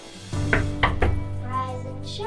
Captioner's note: hand knocking on door